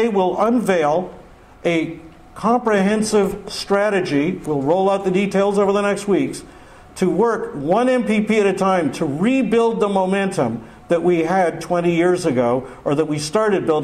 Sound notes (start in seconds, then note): none